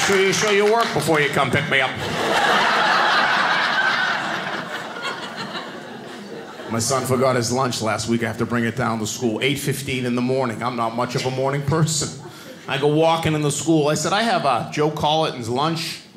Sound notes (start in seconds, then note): 1.6 audience laughing